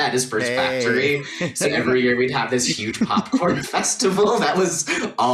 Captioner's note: laughing